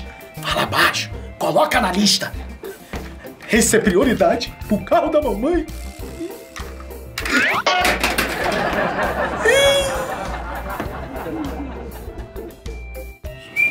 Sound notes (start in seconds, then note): 0.5 hushed; 7.6 clattering; 9.4 crying